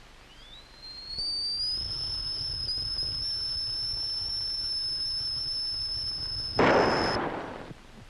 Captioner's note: the teakettle whistles, then a gunshot is heard